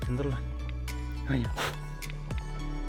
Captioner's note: poof